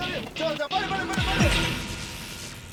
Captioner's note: tingling